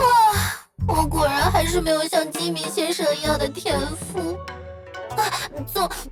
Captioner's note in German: schluchz